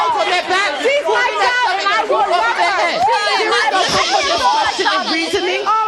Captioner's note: hollering drowns out speaker